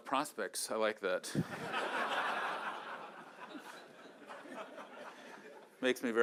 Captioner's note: laughter